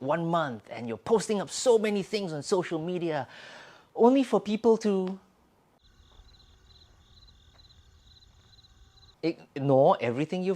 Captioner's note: cricket sounds